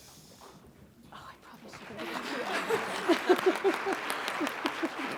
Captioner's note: audience clapping